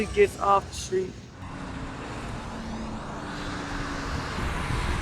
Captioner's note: cars rushing past